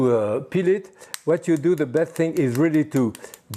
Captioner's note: egg cracking